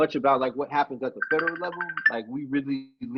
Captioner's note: phone rings